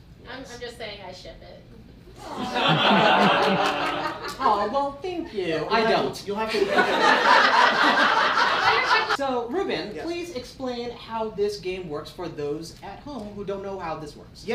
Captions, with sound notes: - I'm just saying I ship it. (awww) - Well thank you. I don't. (laughing) - So Reuben, please explain how this game works for those at home who don't know how this works.